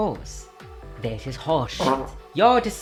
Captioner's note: fart